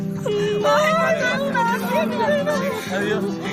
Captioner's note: cries of admiration